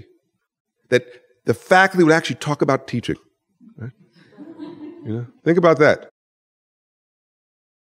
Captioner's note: laughter